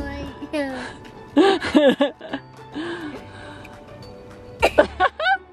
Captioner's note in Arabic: قهقهة